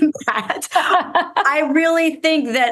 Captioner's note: laughs